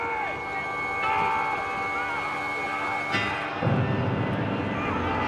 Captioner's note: des hommes crient